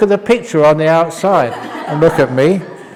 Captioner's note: laughter